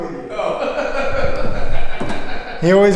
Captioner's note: laughs